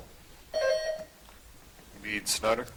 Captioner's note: buzzer chiming